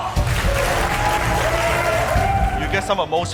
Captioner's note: applause